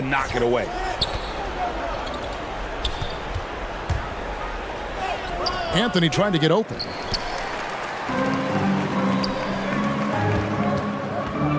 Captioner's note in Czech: Potlesk